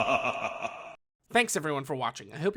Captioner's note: evil laugh